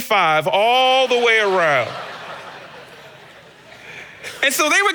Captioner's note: congregation laughing